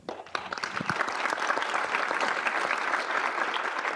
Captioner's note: audience applause